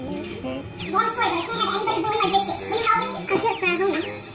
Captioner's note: in high pitched voice